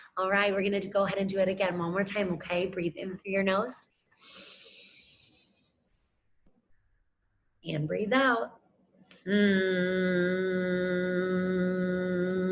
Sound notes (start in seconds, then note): 4.2 inhaling; 9.2 humming